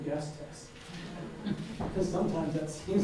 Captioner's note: audience laughing